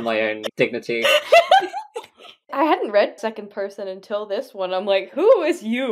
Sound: laughs

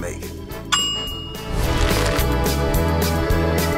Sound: bell sound

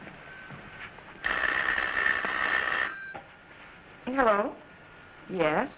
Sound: phone ringing

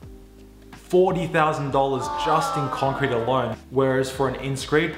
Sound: crowd moaning

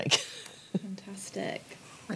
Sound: laughs

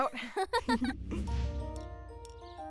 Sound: laughing; light instrumental music

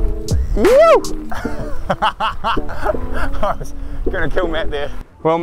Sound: chuckles

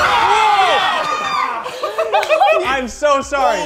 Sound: screaming; laughter

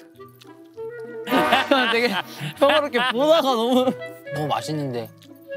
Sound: he suddenly burst into laughter

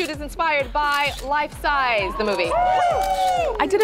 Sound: models cheer

